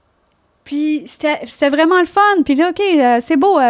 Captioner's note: in french